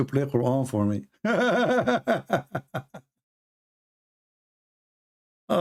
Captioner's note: Ketawa